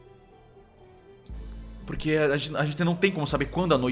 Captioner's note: none